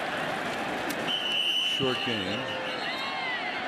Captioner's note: whistle